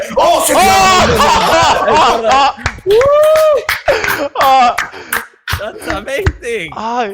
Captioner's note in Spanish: Sonidos guturales de la Andalucía profunda